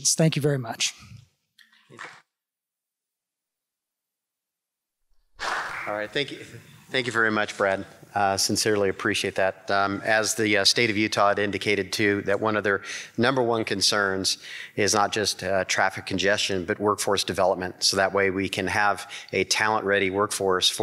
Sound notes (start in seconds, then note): 2.0 congregation clapping